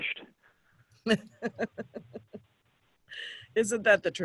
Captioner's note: giggling